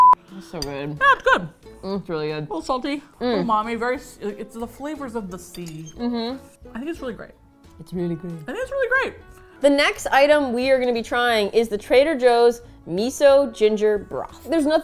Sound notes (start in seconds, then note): 7.4 low voice